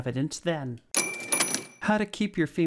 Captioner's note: cha-ching